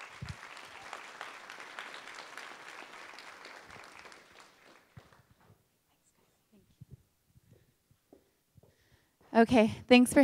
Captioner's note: applause